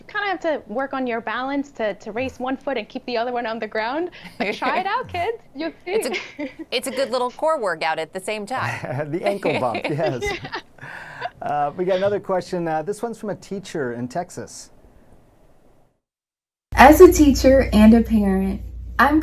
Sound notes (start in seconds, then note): 5.8 laughing